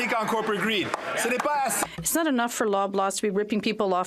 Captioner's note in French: voix de l'interprète